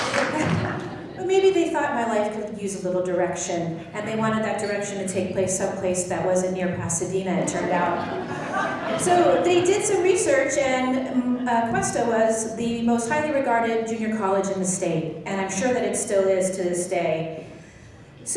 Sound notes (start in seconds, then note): 7.4 laughing